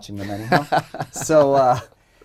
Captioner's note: laughter